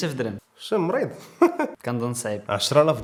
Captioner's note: laughing